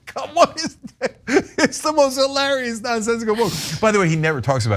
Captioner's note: laugh